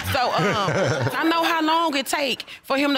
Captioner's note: all laughing